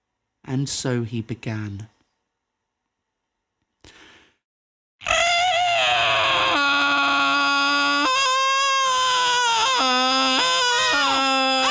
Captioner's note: extended, loud, abrasive seagull impression